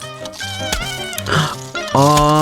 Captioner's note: exhales Oxygen